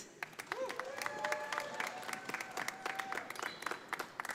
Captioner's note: audience applauding